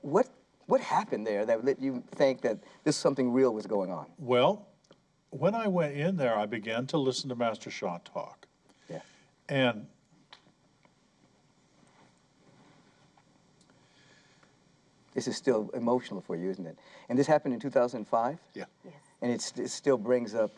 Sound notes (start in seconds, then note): 10.7 takes long pause